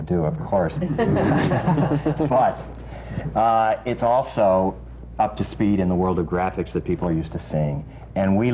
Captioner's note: laughter